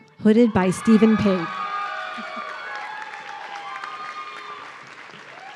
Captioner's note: audience cheering